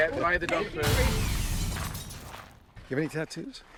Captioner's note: techno explosion